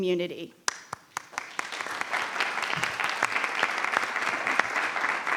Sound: attendees applauding

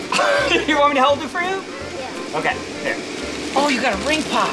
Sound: laughter

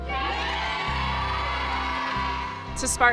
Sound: all cheering

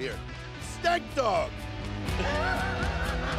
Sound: laughter; intense country music

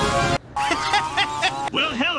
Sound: laughter

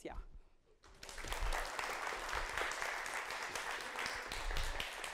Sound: audience clapping

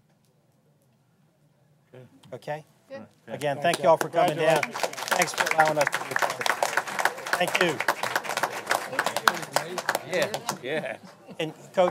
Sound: applause

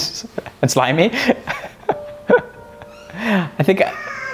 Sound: laughs

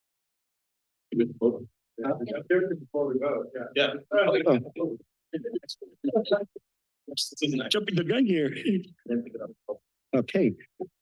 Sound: background conversations

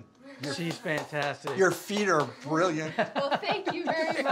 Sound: claps; laughs

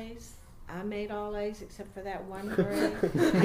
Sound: interviewers laugh

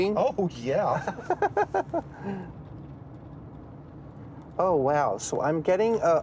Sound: chuckling

